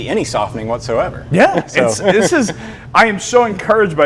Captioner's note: laughs